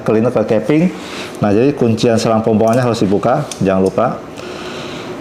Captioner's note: unlocking sound; inhale